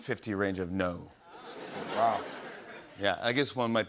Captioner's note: laughter